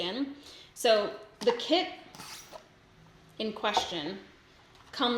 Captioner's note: box squeaks